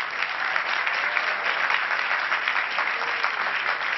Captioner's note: crowd applauding